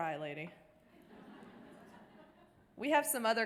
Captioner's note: audience laughter